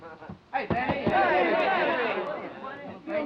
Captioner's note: men calling out greetings